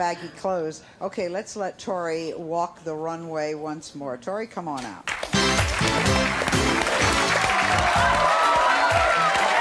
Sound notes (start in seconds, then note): 5.0 applause; 5.2 upbeat music